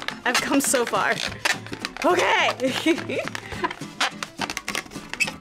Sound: laughs

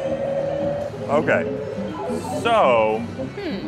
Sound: machine warbling

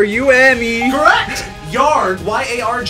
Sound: electronic bell chimes

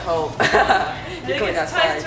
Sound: laughs

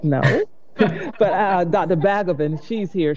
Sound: chuckling

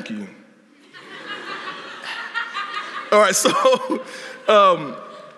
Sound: laughter

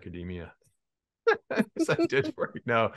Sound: chuckles

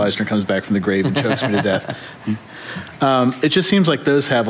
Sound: laughter

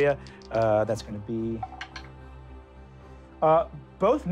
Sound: rolling dice

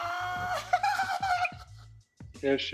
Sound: laughs

